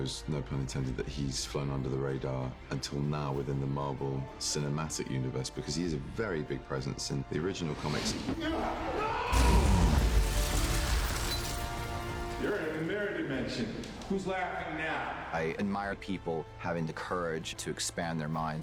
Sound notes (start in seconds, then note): 8.4 yells; 11.1 glass shatters; 12.7 echoes